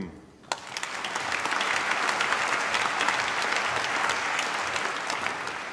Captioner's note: applause